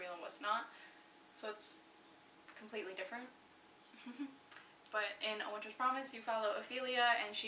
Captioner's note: laughs